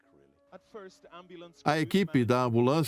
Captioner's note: voiceover